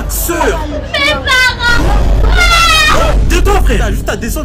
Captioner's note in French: Pleurs d'enfant